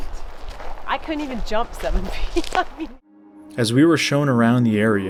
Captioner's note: laughs